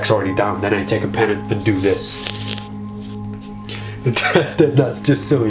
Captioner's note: laughs